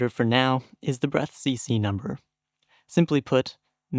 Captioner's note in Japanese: Breath CC＃